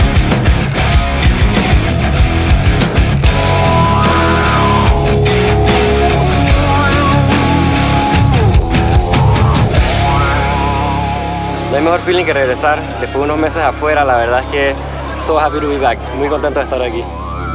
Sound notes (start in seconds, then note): 0.1 upbeat rock music continues; 11.9 speaking Spanish